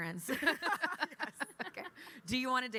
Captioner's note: all laugh